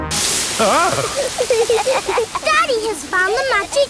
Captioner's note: laughing